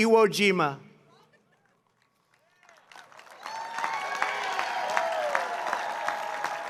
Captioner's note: applause